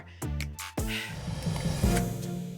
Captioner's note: sighs